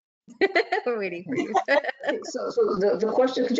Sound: laughs

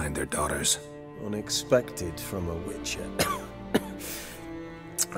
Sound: cough

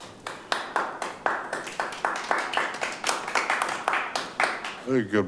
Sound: attendees applaud

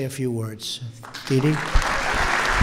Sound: applause

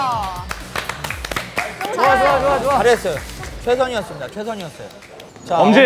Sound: applaud

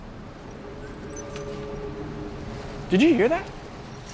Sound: eerie noises

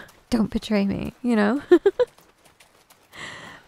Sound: giggles

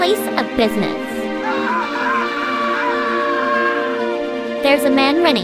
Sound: Pete-Greg screams & runs away

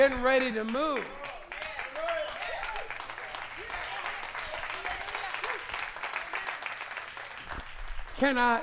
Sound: applause

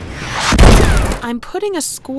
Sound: explosion; gunshot

